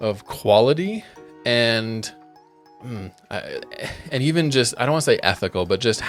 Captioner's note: groans